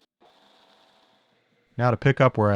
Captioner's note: machine whirring